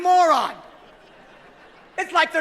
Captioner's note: laughing